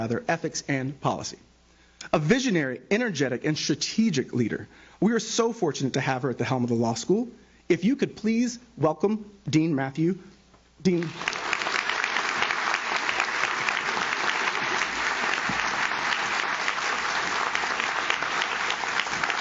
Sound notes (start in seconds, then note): 10.9 audience claps